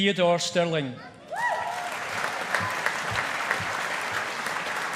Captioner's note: audience applauding